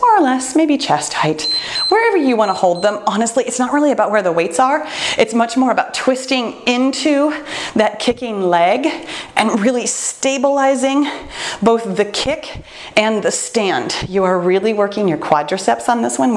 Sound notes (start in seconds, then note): 1.4 timer beeps